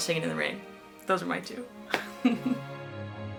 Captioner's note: laughs